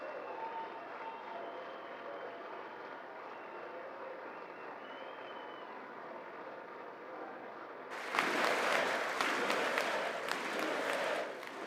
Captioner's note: applause